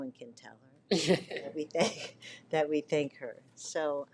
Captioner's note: both laughing